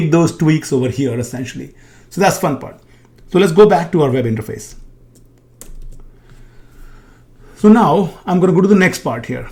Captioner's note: keyboard clicking